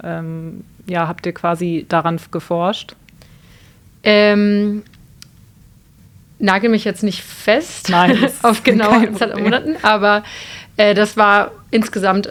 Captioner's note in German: gelächter